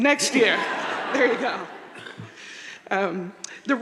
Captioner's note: audience laughing